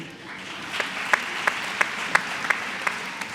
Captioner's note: applause